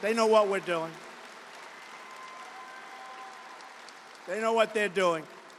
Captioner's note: applause